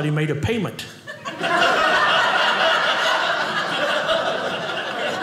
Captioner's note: audience laughing